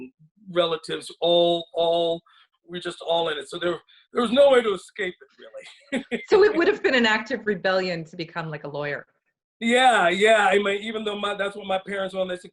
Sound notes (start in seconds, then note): 5.5 laughs